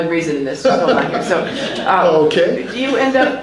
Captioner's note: laughs